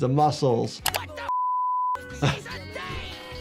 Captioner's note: beep; laughing